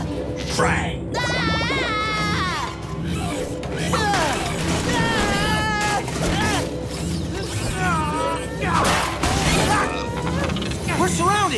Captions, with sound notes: Kraang. [screaming] [grunting] We're surrounded.